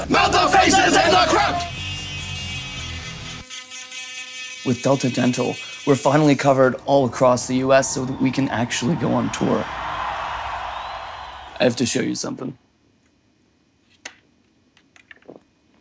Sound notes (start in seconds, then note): 1.6 heavy metal music; 9.9 audience cheering